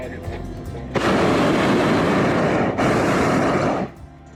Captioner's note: burner roars